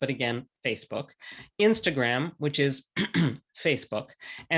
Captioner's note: clears throat